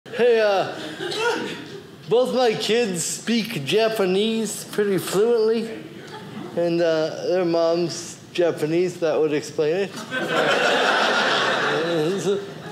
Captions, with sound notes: Hey, both my kids speak Japanese pretty fluently. And their mom's Japanese, that would explain it. (audience laughing)